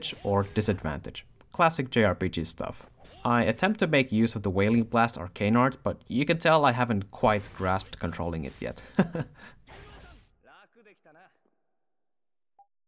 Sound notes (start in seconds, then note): 8.8 chuckles